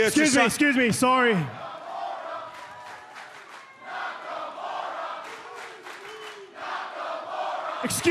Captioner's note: crowd cheering